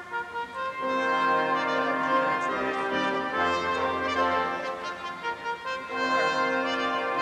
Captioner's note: none